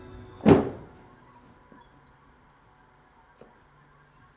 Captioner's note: birds chirping